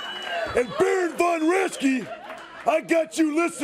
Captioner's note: crowd cheering